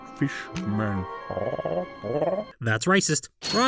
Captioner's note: A Fishman voice???